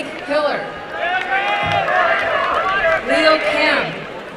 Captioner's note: applause and cheering